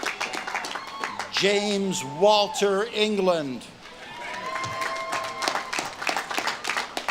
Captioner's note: audience claps and cheers